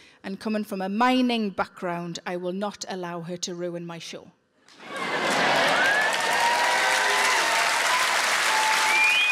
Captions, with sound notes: and coming from a mining background, I will not allow her to ruin my show. (audience applauding)